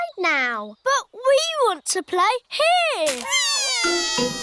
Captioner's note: crying